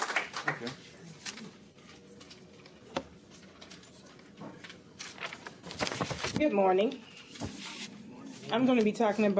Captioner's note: applause